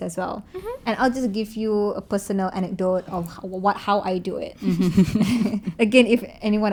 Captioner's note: laugh